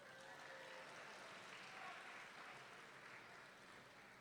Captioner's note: audience clapping